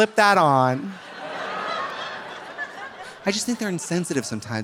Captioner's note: audience laughing